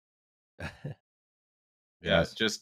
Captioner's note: small laugh